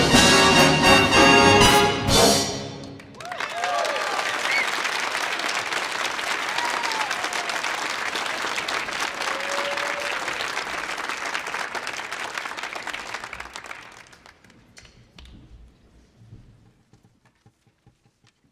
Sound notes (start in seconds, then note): 3.1 audience applauding